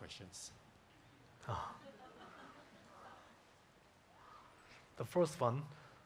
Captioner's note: audience chuckling